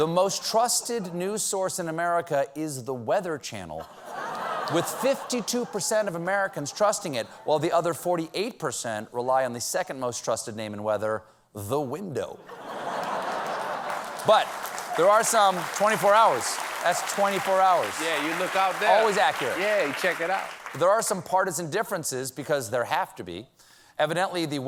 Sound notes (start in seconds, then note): 11.2 applause; 12.4 laughter